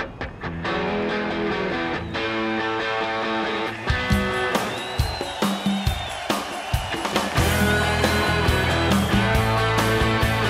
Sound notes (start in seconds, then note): 4.7 crowd cheering